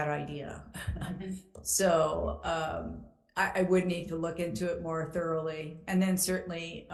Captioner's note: chuckles